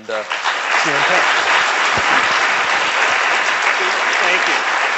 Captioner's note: applauding